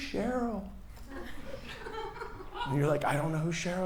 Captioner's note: person laughs